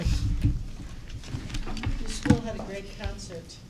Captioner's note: shuffling